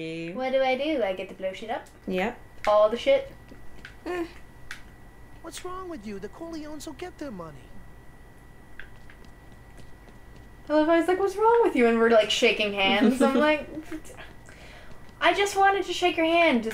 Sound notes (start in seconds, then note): 5.5 game audio